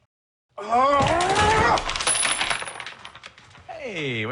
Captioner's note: sound of a door being ripped off its hinges